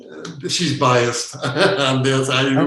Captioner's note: laughing